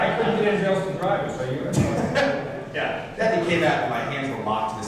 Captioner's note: laughter